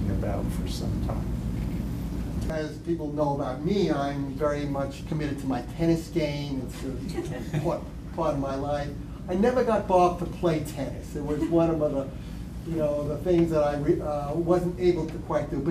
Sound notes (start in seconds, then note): 7.0 laughter